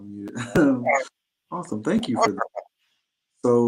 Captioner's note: laughter